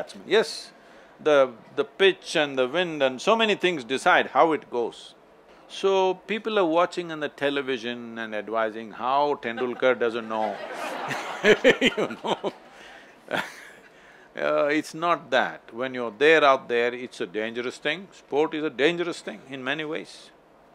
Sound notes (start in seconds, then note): 10.1 laughter